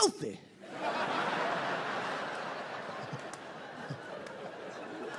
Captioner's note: audience laughs